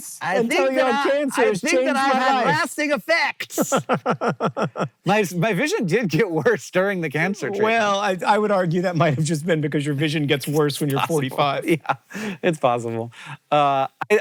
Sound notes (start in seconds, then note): 3.6 JOHN laughs; 7.4 laughing